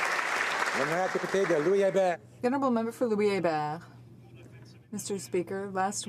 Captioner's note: applause